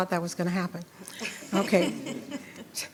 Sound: attendees laughing

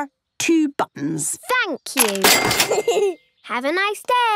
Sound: giggles

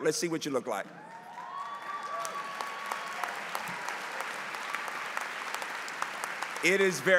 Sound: applause

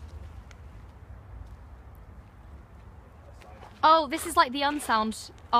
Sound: none

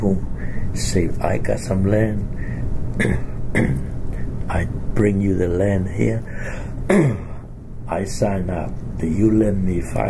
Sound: coughs

